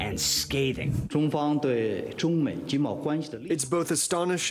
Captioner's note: speaking in mandarin